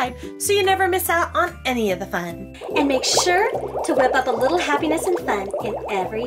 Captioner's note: bubbling sound